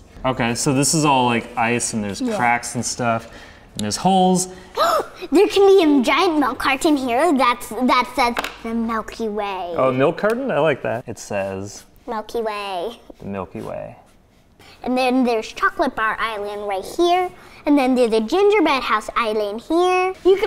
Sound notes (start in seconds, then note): 4.5 gasp